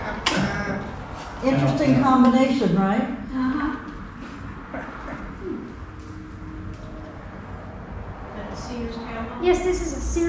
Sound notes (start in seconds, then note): 4.1 laughing